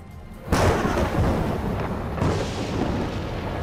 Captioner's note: thunder crashing